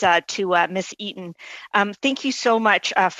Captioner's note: speaking French